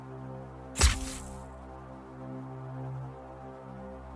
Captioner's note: sword whooshes